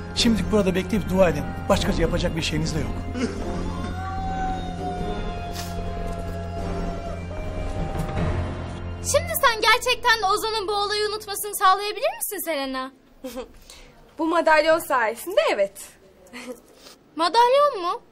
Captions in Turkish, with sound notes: Şimdilik burada bekleyip dua edin. Başka yapacak bir şeyinizde yok. [AĞLAMA SESİ] [GERİLİM MÜZİĞİ ÇALIYOR] Şimdi sen gerçekten Ozan'ın bu olayı unutmasını sağlayabilir misin Selena? Bu madalyon sayesinde evet. Madalyon mu?